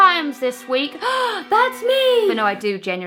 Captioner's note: gasps